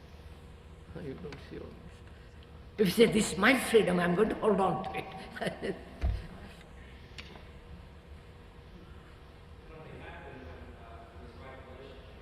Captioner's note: laughs